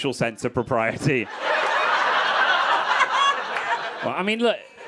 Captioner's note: crowd laughing